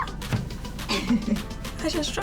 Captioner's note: screams; laughs